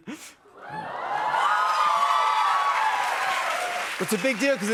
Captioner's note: cheers and applause